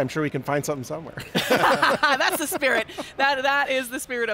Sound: all laughing

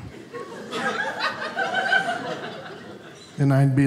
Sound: audience laughing

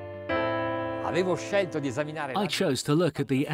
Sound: speaking foreign language

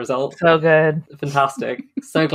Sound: laughs

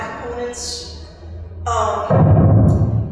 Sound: mic booming

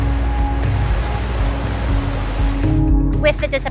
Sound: uplifting music; waterfall raging

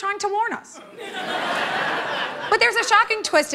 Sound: laughter

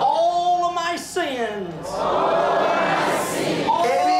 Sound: audience repeats in english

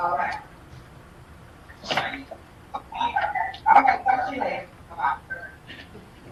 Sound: people chattering faintly

